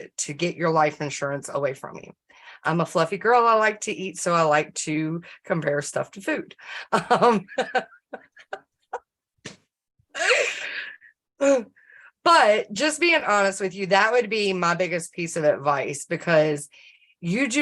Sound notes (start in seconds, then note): 6.9 um… Laughter